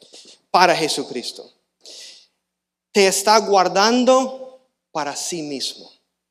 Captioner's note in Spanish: resoplido